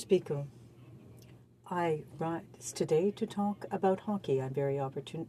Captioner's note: speaking French